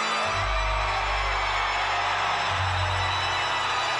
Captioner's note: crowd cheers